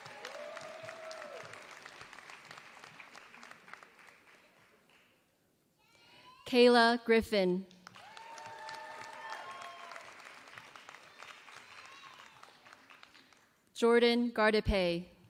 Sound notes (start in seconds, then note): 0.0 applause; 7.7 applause